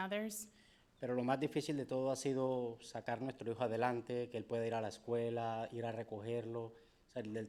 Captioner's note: speaking in foreign language